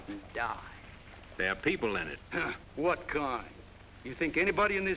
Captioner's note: scoffs